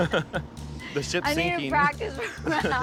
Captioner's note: laughs; chuckles